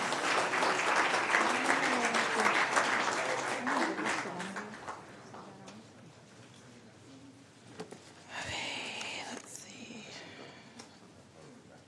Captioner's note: applause